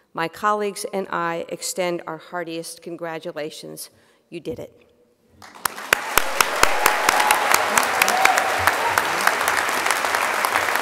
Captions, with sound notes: My colleagues and I extend our heartiest congratulations. You did it. (crowd applause)